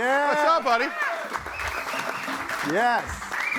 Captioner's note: audience cheering